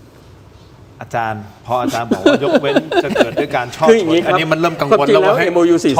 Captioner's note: laughter